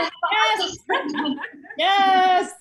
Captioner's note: loud laughs